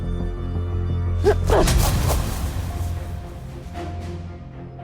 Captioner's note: slow dramatic music; Anya grunts; dramatic orchestral music